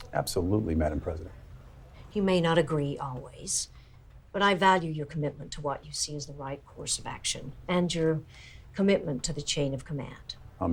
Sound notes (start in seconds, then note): none